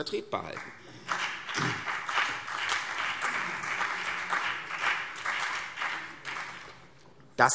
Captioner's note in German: Beifall CDU und BÜNDNIS 90/DIE GRÜNEN